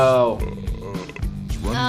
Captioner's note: man in video belching